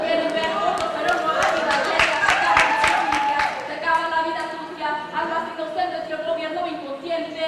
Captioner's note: applause